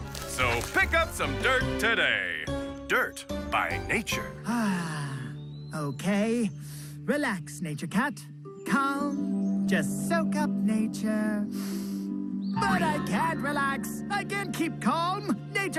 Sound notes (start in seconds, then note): 4.6 cat sighing; 11.5 inhaling